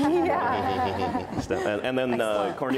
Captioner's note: audience laughs